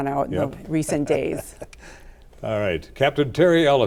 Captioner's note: laughs